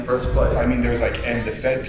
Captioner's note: voiceover